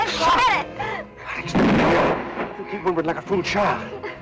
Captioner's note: gunshot